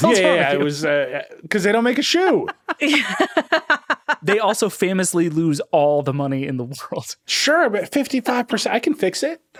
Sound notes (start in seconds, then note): 2.2 all laughing